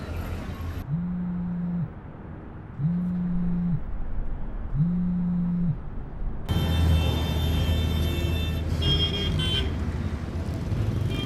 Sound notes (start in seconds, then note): 1.2 phone vibration